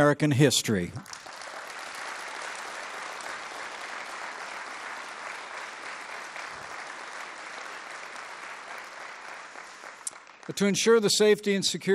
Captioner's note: applause